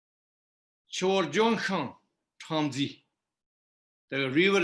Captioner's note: tibetan